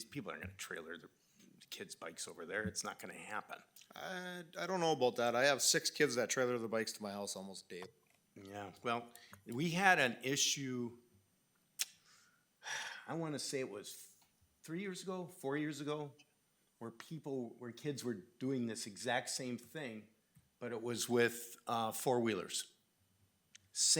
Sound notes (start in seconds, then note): 12.6 sighing